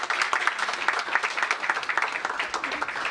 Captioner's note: applause